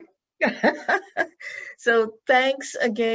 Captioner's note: laughs